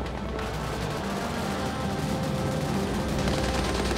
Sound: gun fires

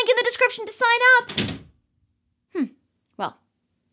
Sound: door slams

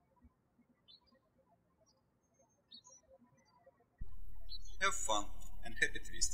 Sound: birds chirping

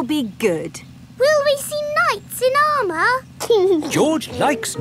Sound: giggling

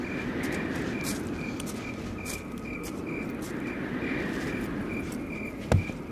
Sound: wind whooshing; gravel crunching

